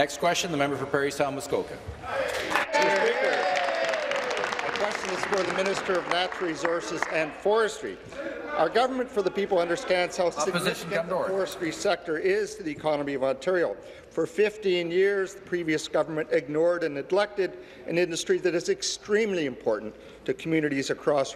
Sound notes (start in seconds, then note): 0.0 applause; 5.7 applause